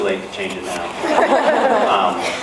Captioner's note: laughs